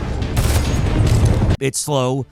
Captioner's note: gun blasting